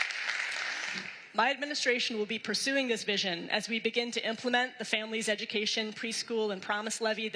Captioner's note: applause